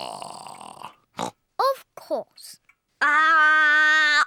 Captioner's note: oinks